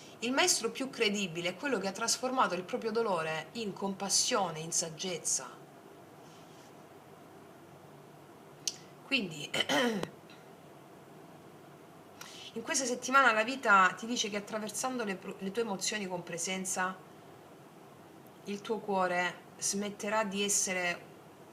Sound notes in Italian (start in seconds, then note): 9.6 schiarire la voce